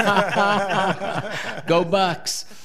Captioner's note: all laughing